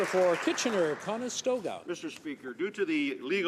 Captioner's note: some Applause